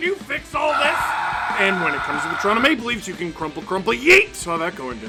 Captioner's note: screaming